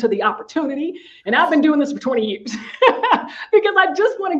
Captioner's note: laughing